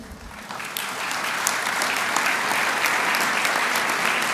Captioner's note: applause